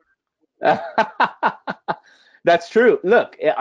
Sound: laughing

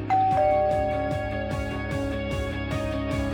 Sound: doorbell rings

